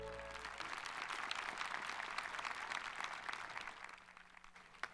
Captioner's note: audience applauding